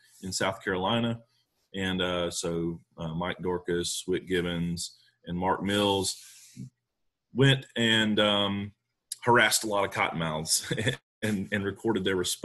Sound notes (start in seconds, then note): 10.6 laughing